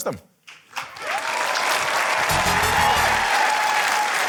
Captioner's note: cheering, applause